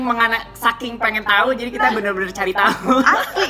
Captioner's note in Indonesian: Dena laughs